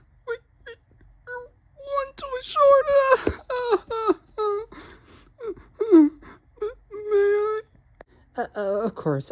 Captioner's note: cries and sniffles